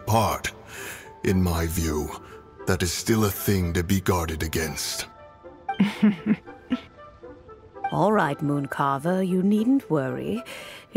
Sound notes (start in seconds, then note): 5.7 chuckles